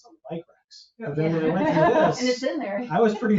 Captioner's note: people chuckle